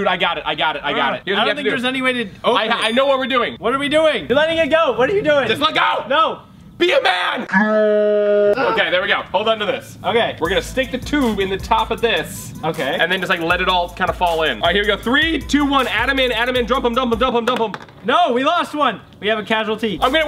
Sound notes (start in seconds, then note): 8.0 growling